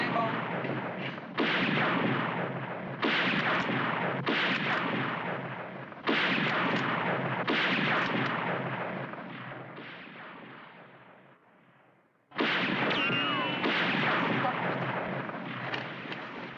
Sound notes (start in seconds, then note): 0.2 gunshots; 5.4 gunshots Continue